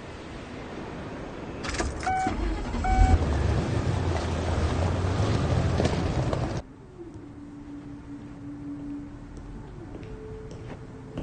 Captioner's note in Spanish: Sonido del motor del auto